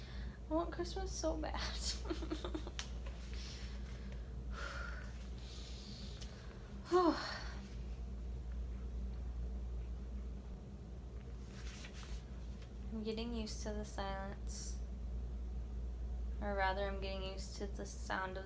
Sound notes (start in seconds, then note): 2.7 fake sobs; 4.5 inhales candle scent